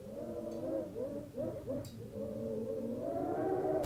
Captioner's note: wind howls violently